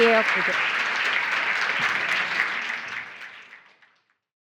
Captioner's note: audience applauding